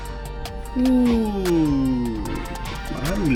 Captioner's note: excited